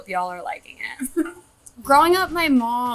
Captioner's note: chuckling